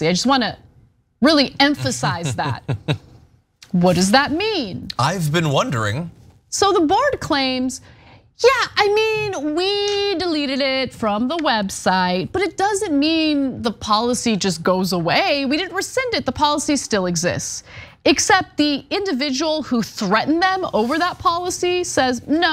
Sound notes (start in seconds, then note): 1.7 laugh